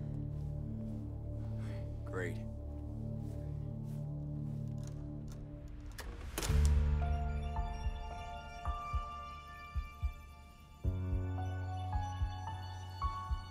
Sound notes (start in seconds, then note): 4.4 light dramatic music; 5.7 door clicks